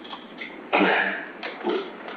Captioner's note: exhales